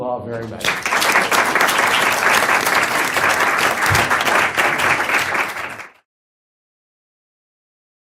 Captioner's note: applause